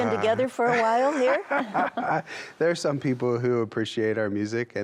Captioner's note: laughs